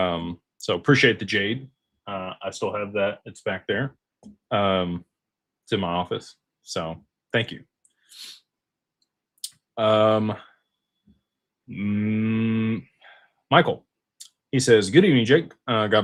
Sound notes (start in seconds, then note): 9.6 snorts